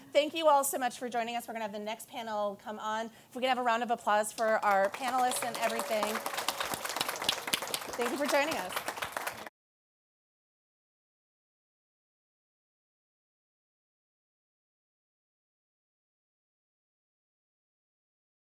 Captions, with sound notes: Thank you all so much for joining us. We're going to have the next panel come on. If we could have round of applause for our panelists and everything. [APPLAUSE] Thank you for joining us.